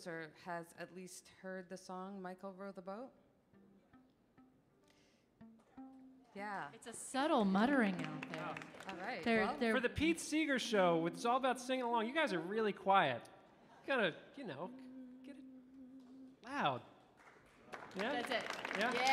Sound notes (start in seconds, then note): 5.4 gentle string music; 7.6 audience applauding; 17.1 audience applauding